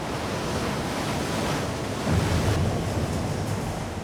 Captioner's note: water washes